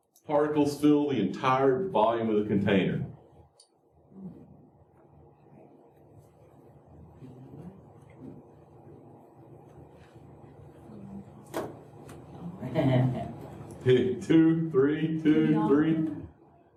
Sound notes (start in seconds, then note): 3.2 laughter